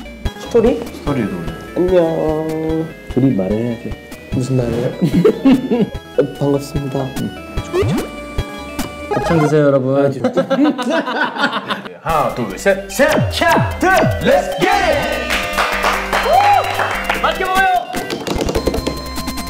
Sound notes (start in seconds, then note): 7.4 whispering